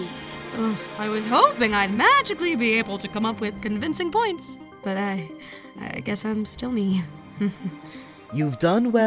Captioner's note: chuckle